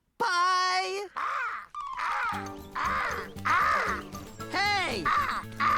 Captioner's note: cawing